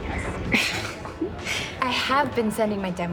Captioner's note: laughs